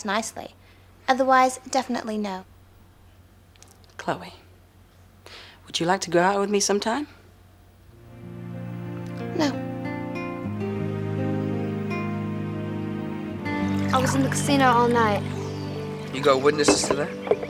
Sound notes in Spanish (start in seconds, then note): 9.4 música sombría; 13.4 agua vertiendo